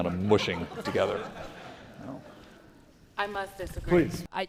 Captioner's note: audience laughing